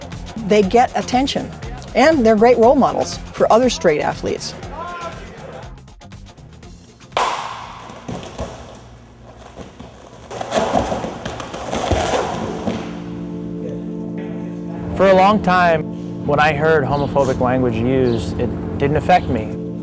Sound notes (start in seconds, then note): 7.0 clap, echoes; 9.2 noises of wrestlers landing on mat